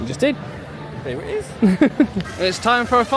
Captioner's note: chuckles